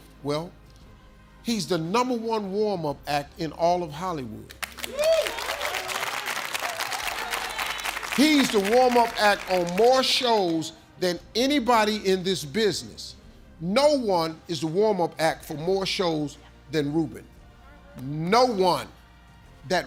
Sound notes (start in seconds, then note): 4.5 audience applauds; 4.8 audience cheers